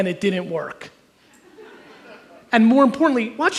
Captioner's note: audience chuckles